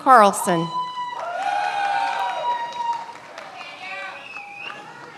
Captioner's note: many applauding